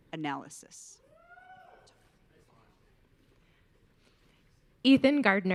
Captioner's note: audience cheering